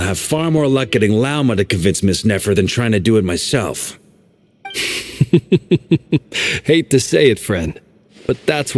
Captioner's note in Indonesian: Tertawa